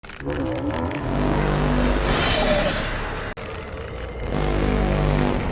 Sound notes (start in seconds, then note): 1.9 roaring